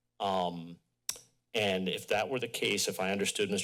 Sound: clicks tongue

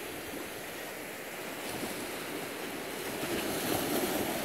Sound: water splashing

